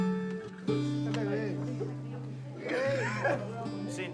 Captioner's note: laughs